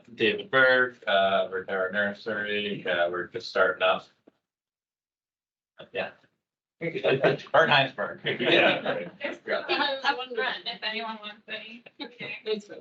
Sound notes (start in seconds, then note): 9.4 attendees laughing